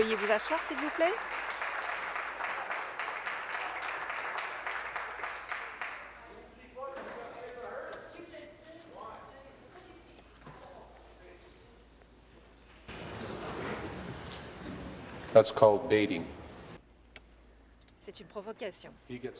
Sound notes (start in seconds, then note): 3.7 applause; 11.2 conversation din